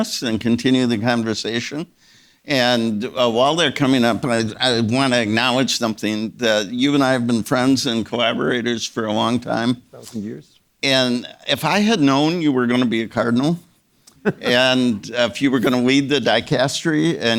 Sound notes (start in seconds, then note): 14.1 Czerny chuckling